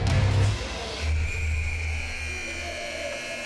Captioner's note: buzzer